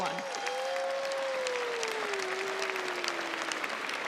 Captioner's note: crowd applauds